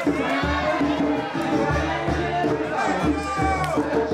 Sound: campers cheering

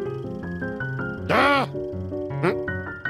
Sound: groan

